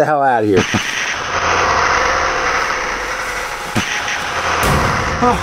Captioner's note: Pepsiman roars